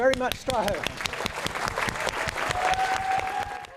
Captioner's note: applause